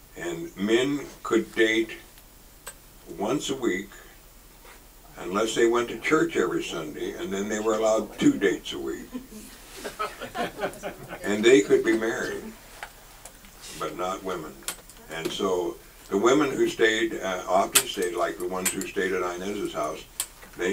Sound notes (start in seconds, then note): 8.9 audience laughs